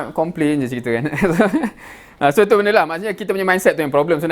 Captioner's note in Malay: ketawa